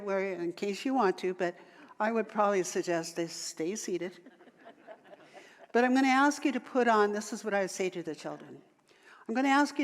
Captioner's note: audience laughter